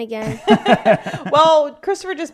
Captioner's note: laughing